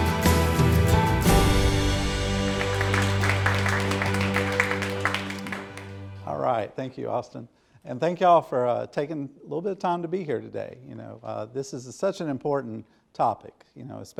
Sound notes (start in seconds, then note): 1.4 audience applauding